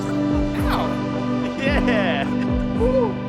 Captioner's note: laughing